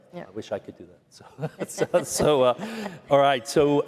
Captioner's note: laughter